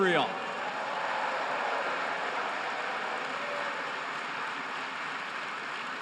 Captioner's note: applause